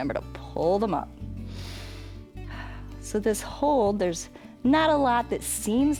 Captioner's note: inhales and exhales